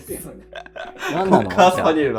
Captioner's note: laughing